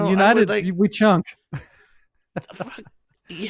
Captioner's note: laughs